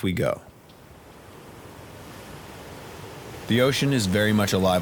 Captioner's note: water gushing